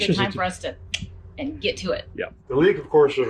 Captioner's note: clicks tongue